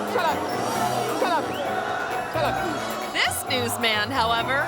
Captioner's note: crowd members yell